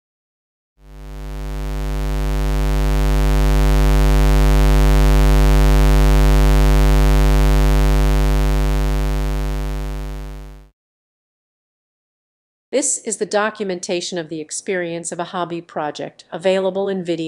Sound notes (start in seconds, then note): 0.8 square wave sound